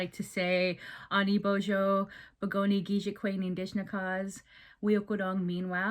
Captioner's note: speaking Indigenous Language